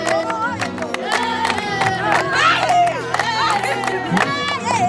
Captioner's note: clapping and chanting